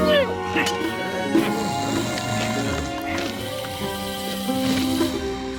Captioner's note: snoring